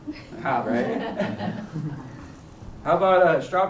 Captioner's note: chuckles